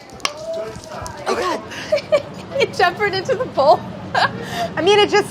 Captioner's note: laughs